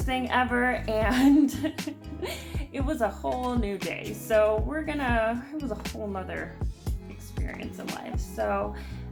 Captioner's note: laughs